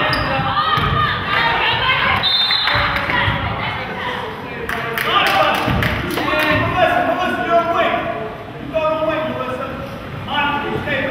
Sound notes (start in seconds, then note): 2.2 whistle blows; 4.7 spectator claps